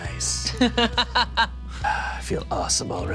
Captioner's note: Delores laughs